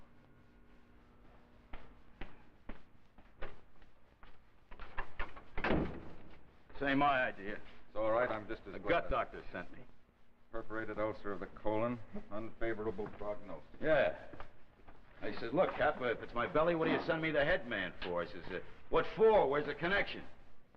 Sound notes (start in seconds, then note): 0.1 footsteps; 4.8 door opens and shuts